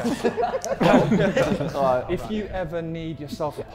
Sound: Sidemen laughing

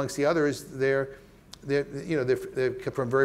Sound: stammering

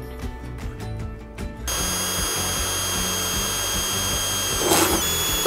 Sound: drill whirring

